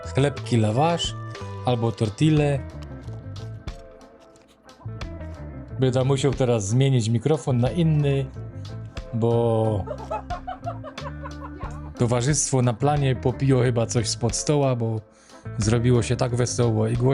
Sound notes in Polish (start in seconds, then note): 9.6 śmiech